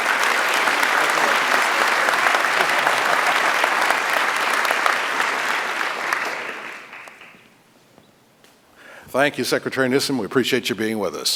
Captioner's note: applause